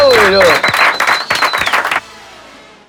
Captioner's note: aplausos